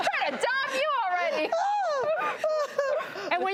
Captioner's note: laughs